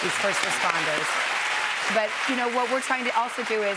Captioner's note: cheers and applause